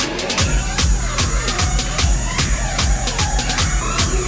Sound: kids playing

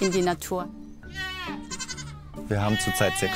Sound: goats bleat, sheep bleat

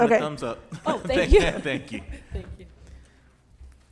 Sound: laughs

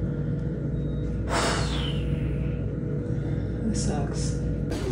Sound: exhales sharply

